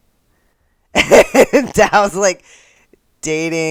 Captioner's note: laughter